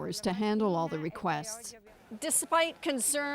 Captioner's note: speaking foreign language